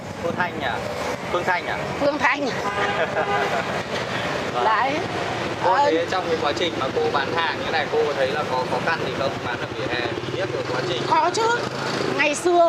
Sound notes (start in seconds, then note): 2.8 laugh